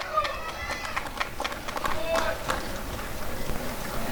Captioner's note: applause and cheering